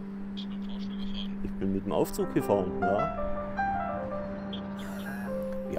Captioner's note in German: beide lachen